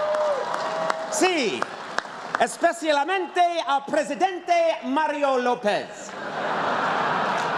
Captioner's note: speaking spanish